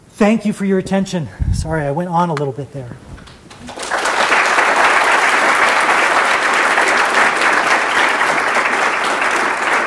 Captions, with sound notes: Thank you for your attention. Sorry, I went on a little bit there. [APPLAUSE]